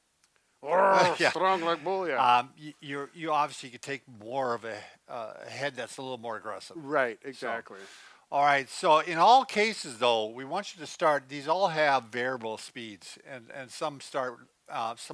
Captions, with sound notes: - (grunts) Strong like bull, yeah. - You obviously could take more of a head that's a little more aggressive. - Right, exactly. - All right, so in all cases though we want you to start, these all have variable speeds and some start,